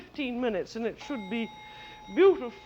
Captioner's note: timer dings